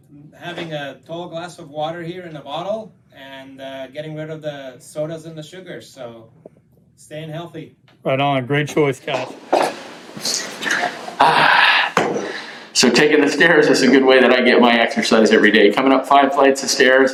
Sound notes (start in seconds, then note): 12.1 exhales deeply